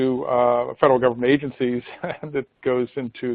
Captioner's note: laughs